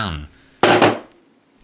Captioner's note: thud